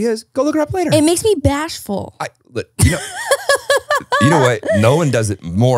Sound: laughing

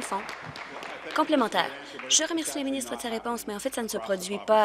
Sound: applause

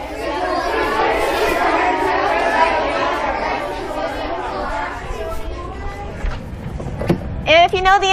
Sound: discussion among students

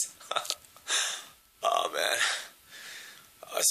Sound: giggling

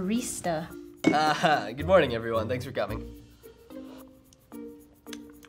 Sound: laughs

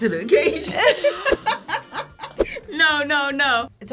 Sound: laughs

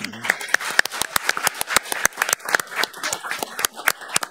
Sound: all applauding

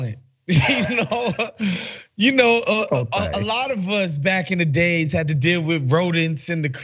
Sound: laugh

